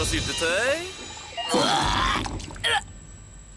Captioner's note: vomits